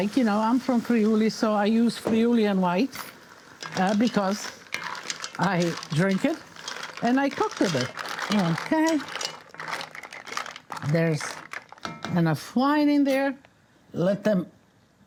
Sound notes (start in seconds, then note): 9.1 mussels clacking